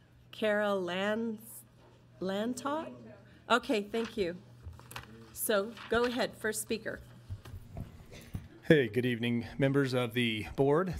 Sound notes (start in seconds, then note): 2.7 mumbles